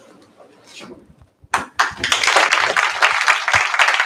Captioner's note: applause